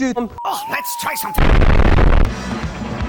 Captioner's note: ominous weapon fire